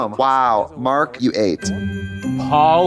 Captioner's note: festive chime; beep